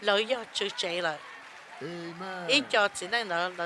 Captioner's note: cheers and applause